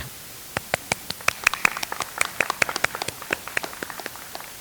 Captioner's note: audience applauds